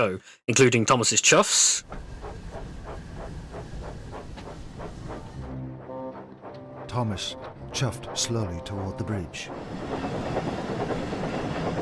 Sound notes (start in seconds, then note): 1.8 slow steady chuffing; 9.7 fast rhythmic chuffing